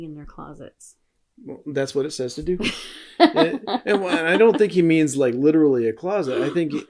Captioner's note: laughing